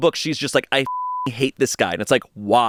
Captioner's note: beep